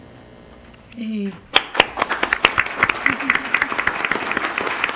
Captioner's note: crowd applauding